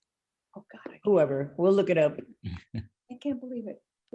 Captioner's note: laughing